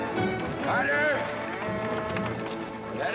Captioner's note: dramatic music; steer mooing